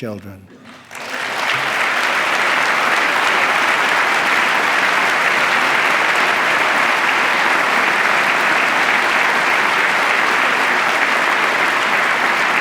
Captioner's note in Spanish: aplauso